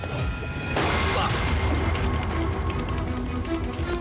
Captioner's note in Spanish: detonación de disparo